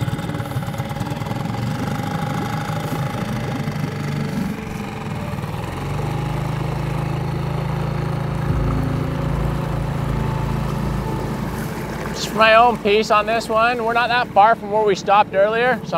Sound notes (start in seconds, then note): 0.8 boat motor roaring